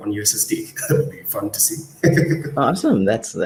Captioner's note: laughs